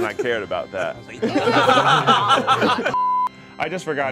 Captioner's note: all laughing